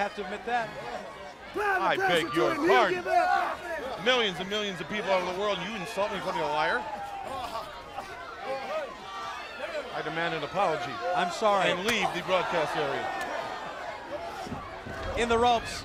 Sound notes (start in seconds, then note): 7.8 crowd chatter; 15.6 crowd chatter